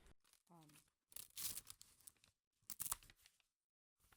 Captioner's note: pages rustle